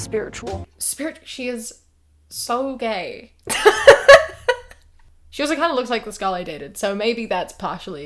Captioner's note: laughs